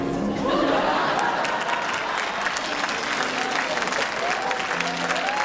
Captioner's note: applause and cheering